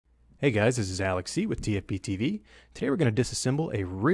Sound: voiceover

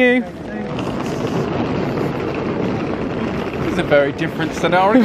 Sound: luggage wheels clattering

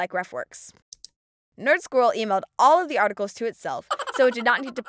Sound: Squirrel laughs gleefully

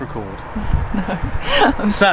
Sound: giggles

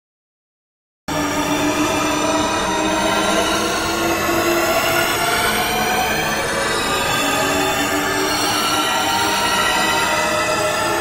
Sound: sound of disembodied spirits

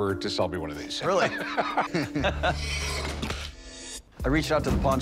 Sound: laughter

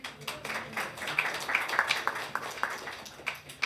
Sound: hands clapping

